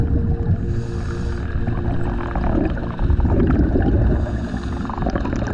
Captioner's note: underwater sounds continue